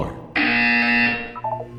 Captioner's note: BZZZZZzzT